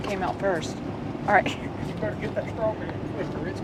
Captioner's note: chuckles